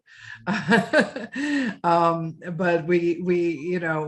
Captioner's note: laughing